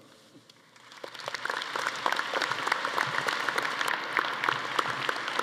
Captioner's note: audience applauding